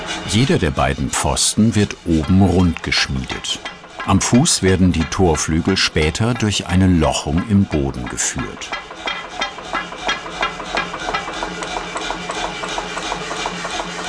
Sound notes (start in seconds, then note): 11.4 mechanical pumping in the background